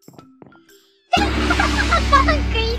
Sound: laughs

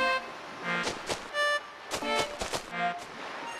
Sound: footsteps

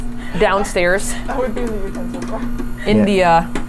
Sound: machine whirring continues

